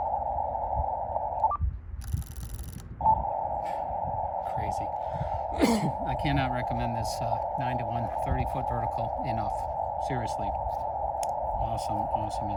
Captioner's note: cough